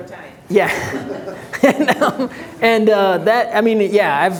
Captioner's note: audience laughing